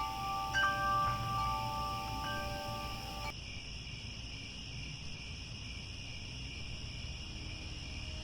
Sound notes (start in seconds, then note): 3.3 crickets